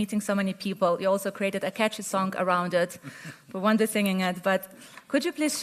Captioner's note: Sadhguru laughs